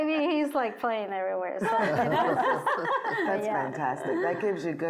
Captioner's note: laughing